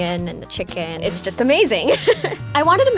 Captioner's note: laughs